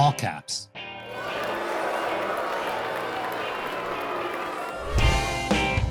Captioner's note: cheering and booing